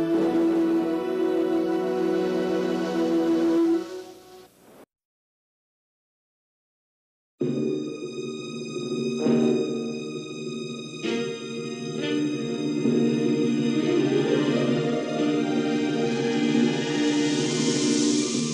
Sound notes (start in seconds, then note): 3.6 silence; 7.3 synthesized orchestral music resuming